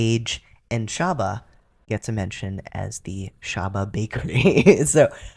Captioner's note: laugh